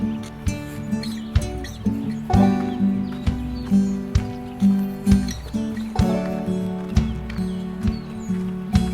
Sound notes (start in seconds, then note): 0.7 footsteps